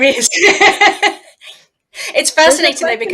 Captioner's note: laughs